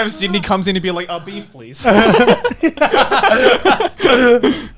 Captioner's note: laughing